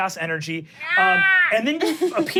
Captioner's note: someone screeching